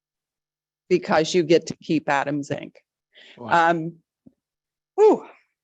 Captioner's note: sighs